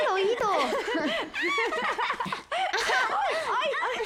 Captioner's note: laughter